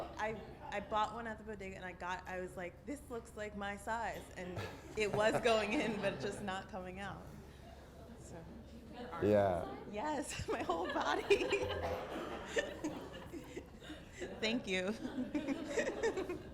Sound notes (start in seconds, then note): 0.3 voiceover; 8.8 voiceover; 11.5 audience member laughs